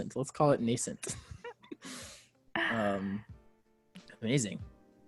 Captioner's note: laughs